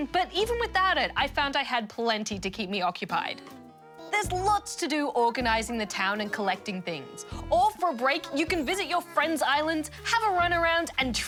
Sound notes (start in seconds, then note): none